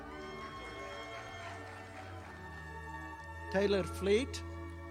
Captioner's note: audience applauding